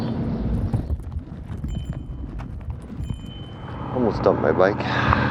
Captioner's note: bumps and bells